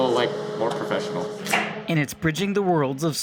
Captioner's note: cutting